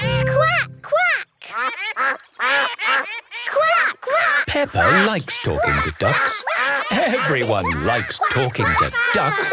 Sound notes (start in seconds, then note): 1.5 quacking